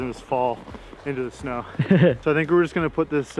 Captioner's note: laughs